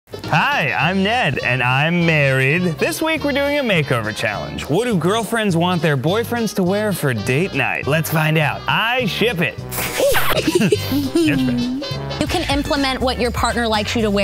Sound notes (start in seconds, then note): 9.7 sprays; 10.0 yelps